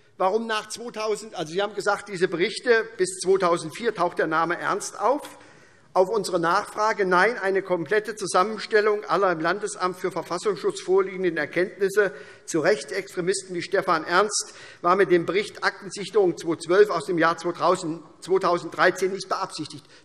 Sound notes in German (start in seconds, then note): none